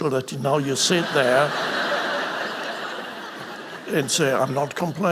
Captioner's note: audience laughing